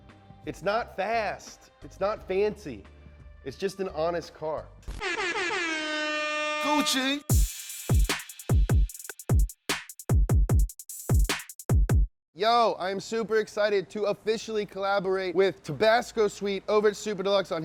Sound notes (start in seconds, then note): 5.0 honking; 7.2 bass music